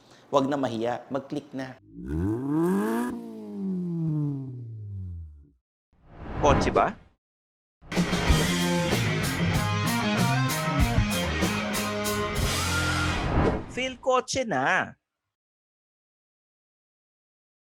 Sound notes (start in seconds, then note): 1.8 engine revs